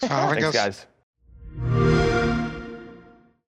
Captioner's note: xbox sound